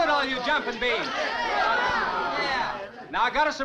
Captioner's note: crowd groaning